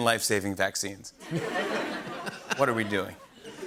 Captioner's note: laughter